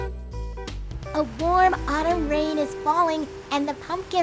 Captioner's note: rain patters